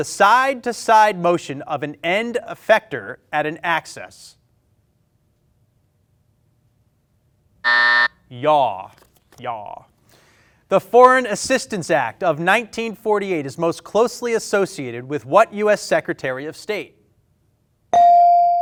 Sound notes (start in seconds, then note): 7.6 buzzer; 17.9 bell ring